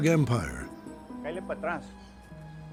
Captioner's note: speaking spanish